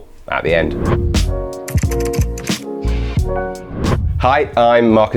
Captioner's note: whooshing; keyboard tapping